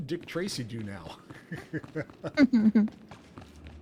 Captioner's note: laughing